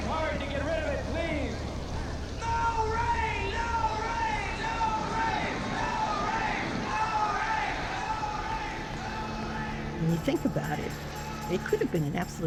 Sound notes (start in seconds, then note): 3.0 shouting; 6.3 crowd chanting, "No rain!"